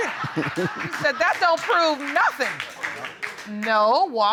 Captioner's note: chuckles; laughs; audience applauds lightly